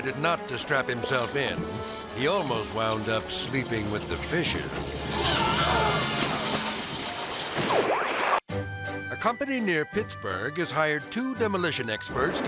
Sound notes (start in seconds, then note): 5.1 screaming; 5.3 dramatic music; 7.6 screen static